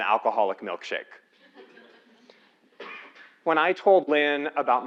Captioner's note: laugh